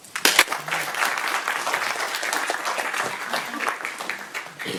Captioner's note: audience clapping